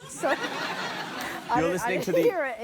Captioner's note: laughter